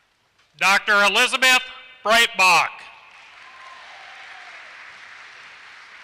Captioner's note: applause